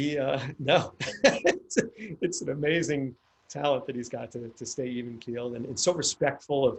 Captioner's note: laughs